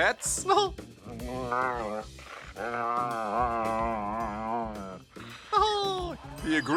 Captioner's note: grunts; laughs